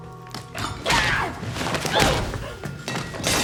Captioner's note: Emily shouting; glass shattering